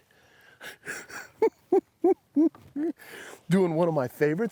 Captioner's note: chuckles